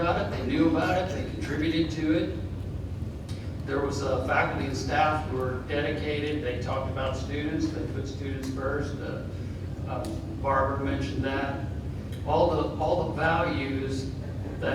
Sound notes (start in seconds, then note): none